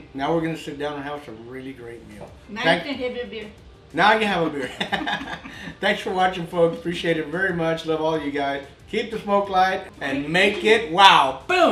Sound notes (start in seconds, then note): 4.5 laughs